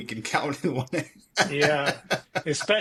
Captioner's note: laughs